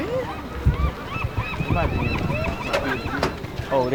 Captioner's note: seagulls crying